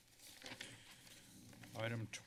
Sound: papers flipping

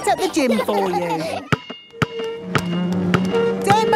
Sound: chair scraping

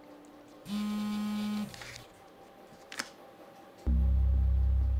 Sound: phone buzzing

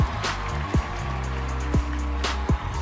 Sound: applause

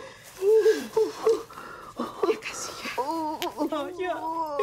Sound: moaning

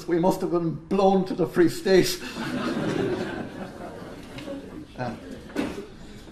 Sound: laughter

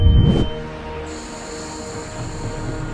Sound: breathing

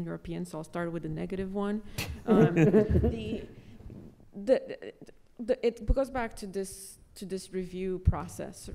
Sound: audience laughter

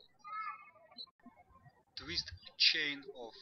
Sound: birds chirping

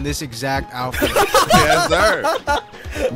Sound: laughing

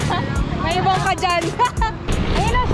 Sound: laughs

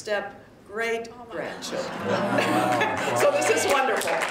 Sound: laughter

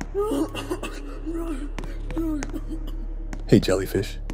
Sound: cough

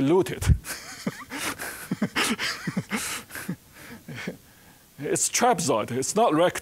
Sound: laughing

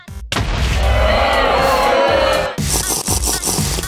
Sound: booing

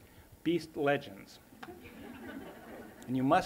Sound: laughter

